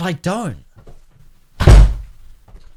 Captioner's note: door thumps